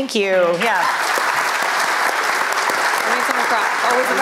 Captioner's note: applause